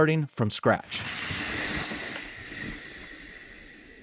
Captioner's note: chain rattling